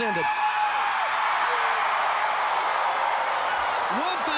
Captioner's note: crowd cheering